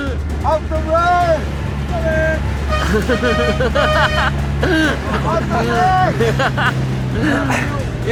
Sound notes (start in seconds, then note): 3.1 bikers laughing and yelling